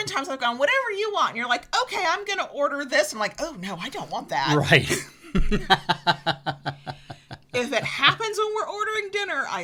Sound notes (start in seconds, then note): 4.4 laughs